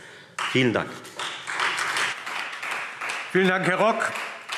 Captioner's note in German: Beifall Freie Demokraten